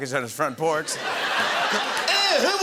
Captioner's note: laughter